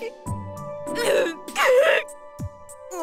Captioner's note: bawl